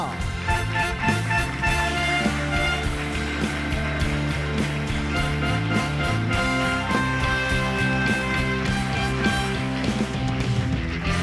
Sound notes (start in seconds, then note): 1.6 audience applauding; 1.6 bright music